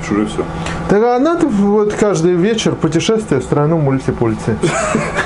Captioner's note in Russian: ироничный смех